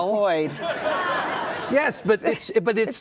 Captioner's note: audience laughing